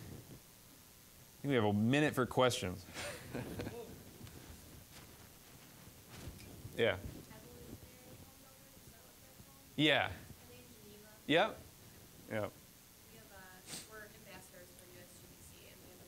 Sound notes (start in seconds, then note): 2.9 all chuckling